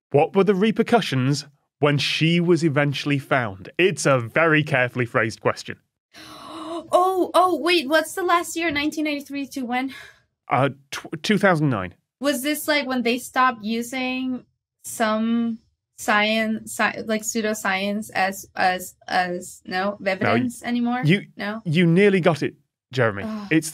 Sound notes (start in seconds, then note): 6.2 gasp